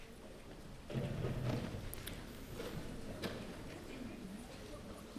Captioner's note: chairs clunking